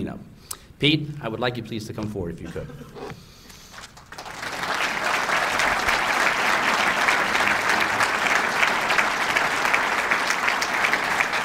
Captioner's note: applause